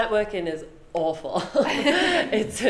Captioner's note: both laugh